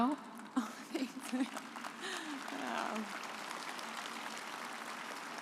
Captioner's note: audience applauds